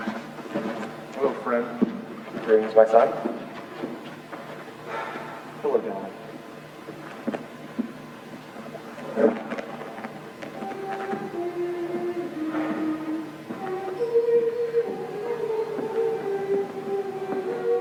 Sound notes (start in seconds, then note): 4.8 sighs; 10.0 women humming lullaby